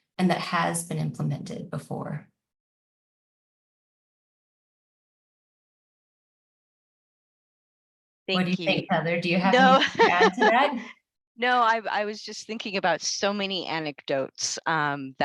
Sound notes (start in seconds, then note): 9.6 laughs